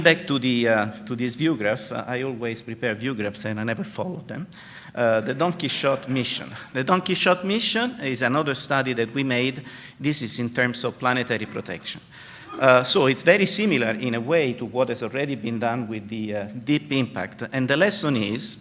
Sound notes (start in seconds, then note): 5.2 laughter